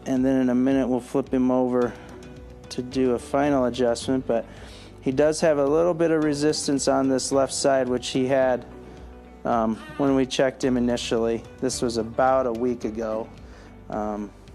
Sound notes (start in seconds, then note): 9.7 cries